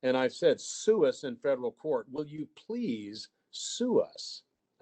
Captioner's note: none